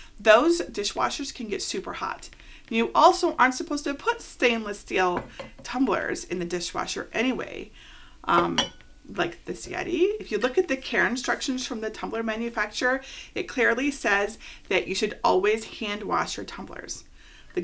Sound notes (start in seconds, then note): 8.4 chinking